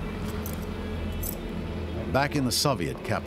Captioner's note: clink of keys